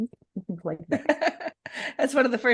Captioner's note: laughing